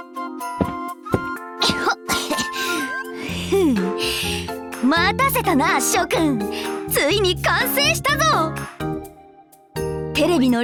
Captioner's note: coughs